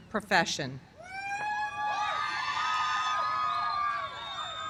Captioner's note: cheers and applause